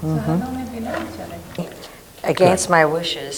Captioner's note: woman speaks off mic